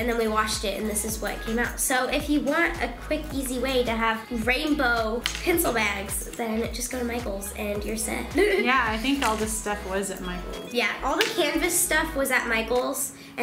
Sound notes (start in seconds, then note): 8.3 laughing